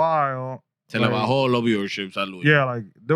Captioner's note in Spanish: Hablando en idioma extranjero